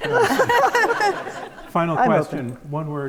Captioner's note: audience laughs